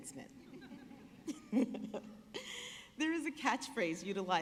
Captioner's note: laughing